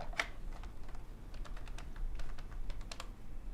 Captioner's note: buttons clicking